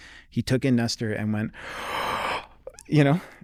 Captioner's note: gasping